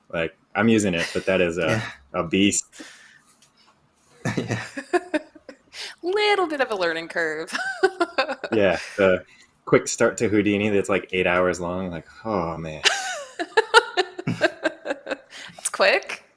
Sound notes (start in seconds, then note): 7.5 laughs; 12.8 laughs